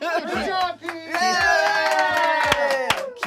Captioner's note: cheering